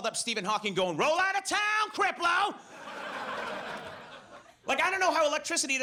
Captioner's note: audience laughs